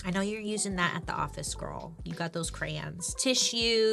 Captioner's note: none